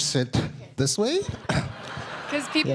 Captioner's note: audience laughing